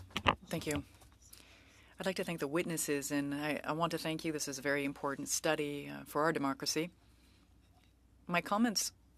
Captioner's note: speaking French